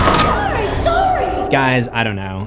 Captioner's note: screams